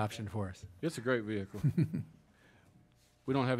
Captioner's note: laughing